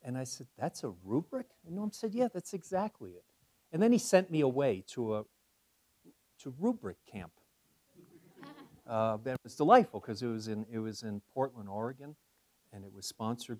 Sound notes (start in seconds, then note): 8.0 laugh